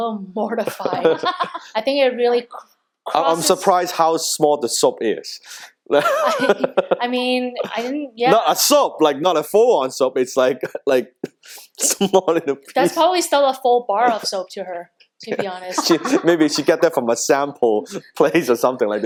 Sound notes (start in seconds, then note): 0.6 laughing; 5.9 laughs; 15.2 lady laughs